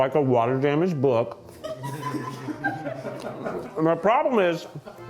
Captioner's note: crew chuckles